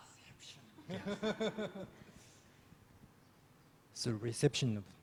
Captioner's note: laughs